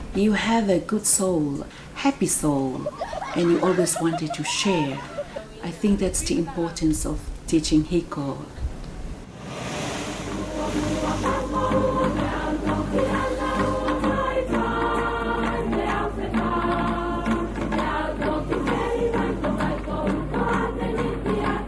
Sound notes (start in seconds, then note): 8.3 waves crashing; 11.1 singing song in Tongan